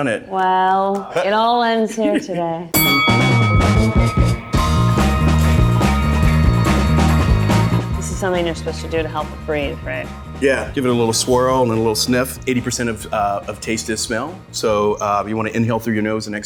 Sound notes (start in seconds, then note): 2.9 bell rings; 3.7 groovy music